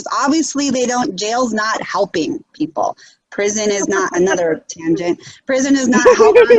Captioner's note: giggles